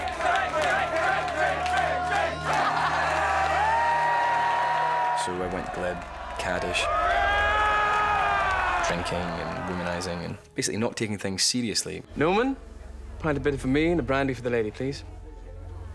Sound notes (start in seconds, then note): 0.0 chanting; 3.2 all cheering